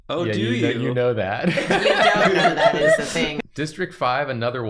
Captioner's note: laughter